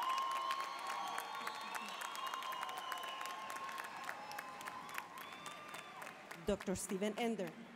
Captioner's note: applause, cheering